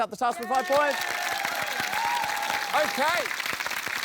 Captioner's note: cheering, applause